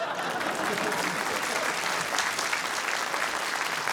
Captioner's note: applause